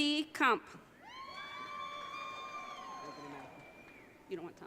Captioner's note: audience cheering